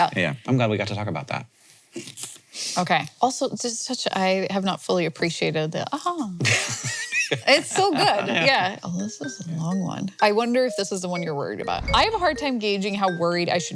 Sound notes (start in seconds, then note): 7.8 Hank laughing